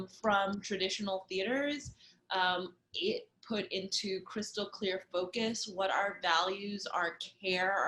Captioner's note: none